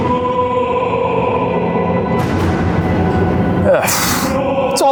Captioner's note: ghost exclaiming hauntedly